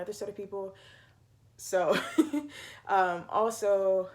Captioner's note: laughs